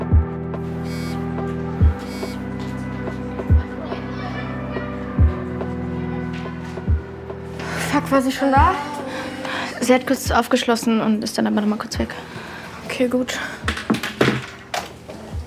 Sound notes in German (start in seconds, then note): 0.6 Vibrieren